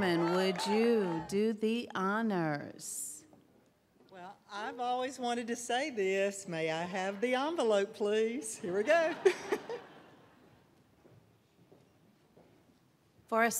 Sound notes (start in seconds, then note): 8.7 laughter